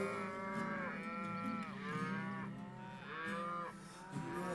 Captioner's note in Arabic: خوار الأبقار